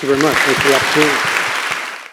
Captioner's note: audience applauding